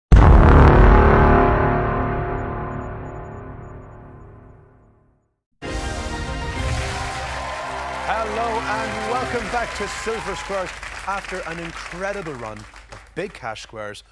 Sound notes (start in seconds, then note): 0.1 boom